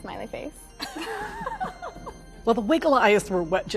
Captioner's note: laughter